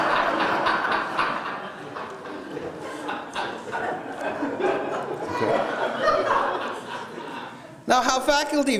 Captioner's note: laughter